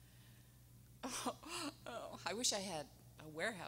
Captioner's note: crying